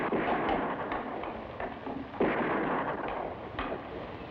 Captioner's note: boots thud